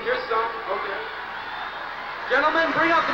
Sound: cheering

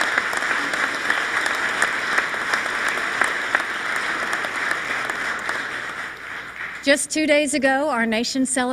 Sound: applause

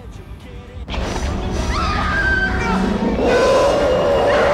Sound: screaming; grunting; roaring

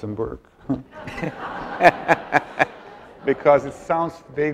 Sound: audience laughs

